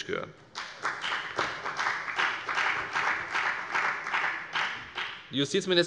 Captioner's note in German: Beifall bei der FDP